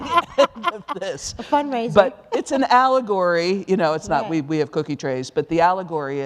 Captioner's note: laughter